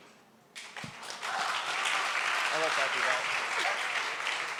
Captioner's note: applause